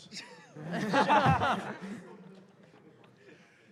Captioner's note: laughter